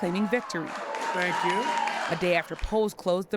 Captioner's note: cheering and applause